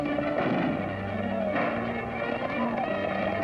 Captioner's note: gunshots